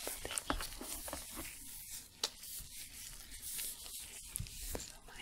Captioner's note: shuffling, glove sounds